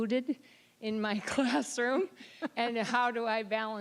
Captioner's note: laughing